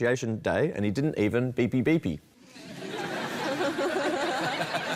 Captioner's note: laughter